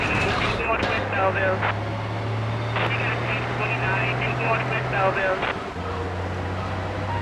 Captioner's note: siren wailing